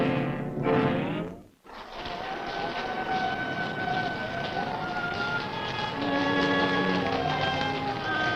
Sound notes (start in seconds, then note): 2.1 wind howling; 3.5 ominous music